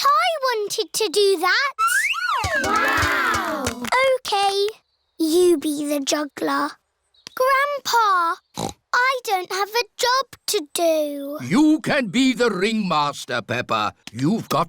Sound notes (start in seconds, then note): 8.5 snorts